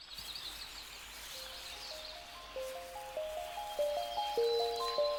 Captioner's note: birds chirping